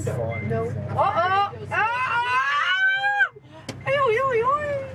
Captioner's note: screaming for joy